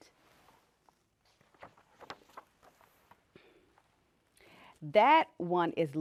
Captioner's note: page turning